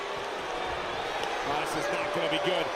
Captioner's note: crowd boos